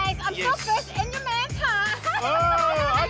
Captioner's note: laughs